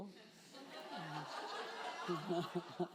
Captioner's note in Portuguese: risos da plateia